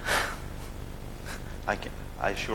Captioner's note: laughs